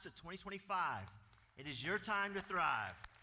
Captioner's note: applause